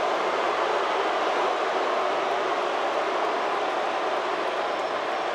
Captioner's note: audience cheers